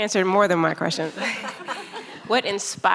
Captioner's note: laughing